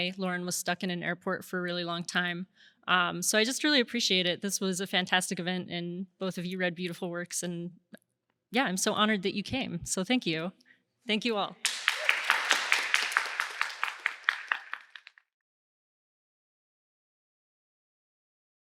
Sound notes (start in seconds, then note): 11.6 applause